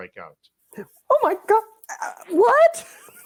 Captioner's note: giggling